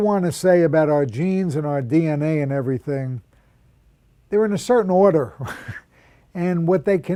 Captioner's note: chuckle